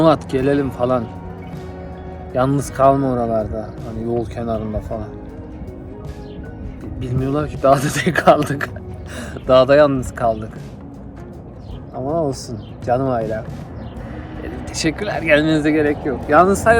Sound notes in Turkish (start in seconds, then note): 7.9 kahkaha